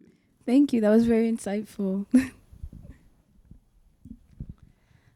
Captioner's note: chuckles